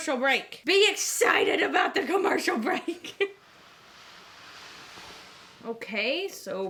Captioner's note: laughs